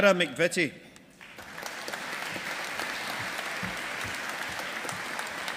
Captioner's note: audience applauding